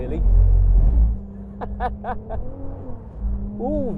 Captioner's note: laughs